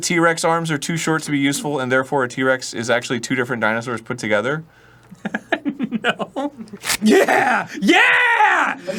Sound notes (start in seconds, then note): 5.2 laughs; 6.8 fleshy rip